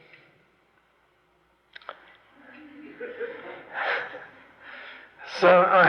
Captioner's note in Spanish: Risas, se ríe